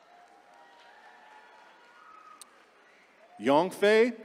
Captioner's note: attendees cheering